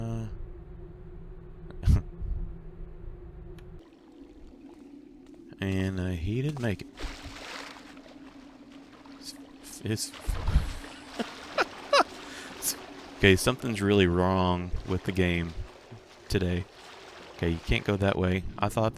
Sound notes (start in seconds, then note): 10.3 laughs